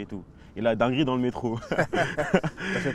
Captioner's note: laughs